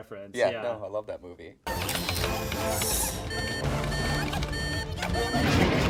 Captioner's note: electronic beeping